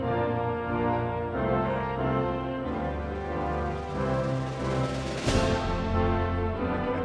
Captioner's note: crowd cheering